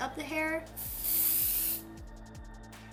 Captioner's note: spraying